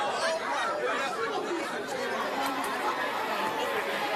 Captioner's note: applause